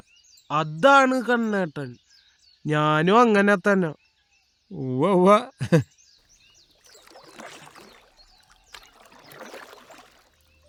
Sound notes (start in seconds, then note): 5.1 laughs teasingly; 6.3 oars splashing in water